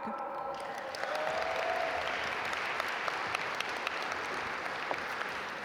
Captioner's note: audience applaud